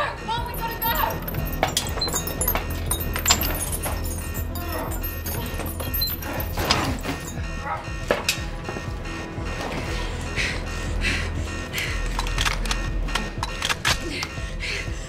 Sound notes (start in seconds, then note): 0.5 chain clanking; 1.9 suspenseful music; 4.4 grunting; 8.5 Christine panting; 13.1 gun snapping